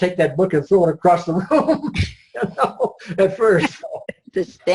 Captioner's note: laughs